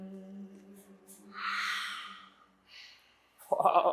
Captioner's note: exhale